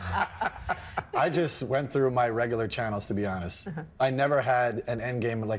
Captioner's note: laughing